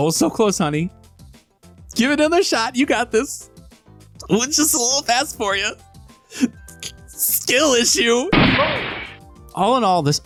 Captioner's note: gunshot